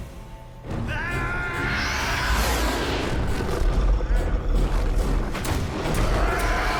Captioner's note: man yells; creature screeches; creature growls; guns firing